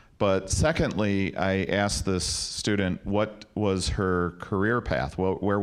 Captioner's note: none